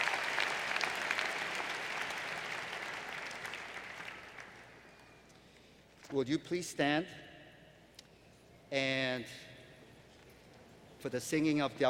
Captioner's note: applause